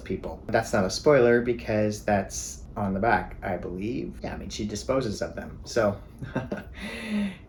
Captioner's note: chuckles